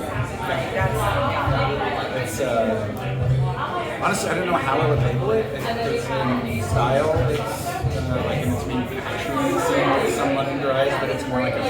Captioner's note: loud background noise and intelligible conversation